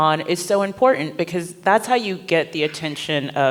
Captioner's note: none